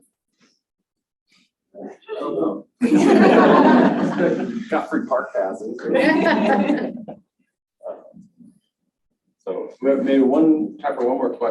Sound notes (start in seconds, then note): 5.6 laughter from panel and audience